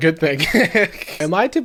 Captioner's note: laughing